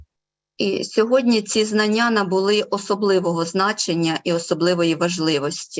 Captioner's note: foreign Language Spoken